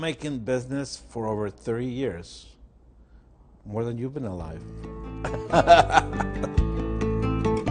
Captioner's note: laughs